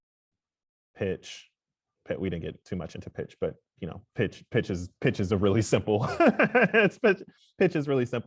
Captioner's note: laughs